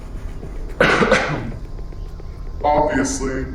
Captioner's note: Wanda X coughs